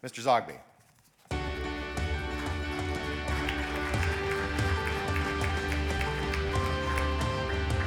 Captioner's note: audience applauding; upbeat music